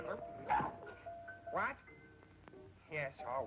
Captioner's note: huffs